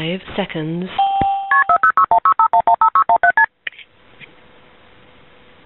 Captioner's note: dial tone ringing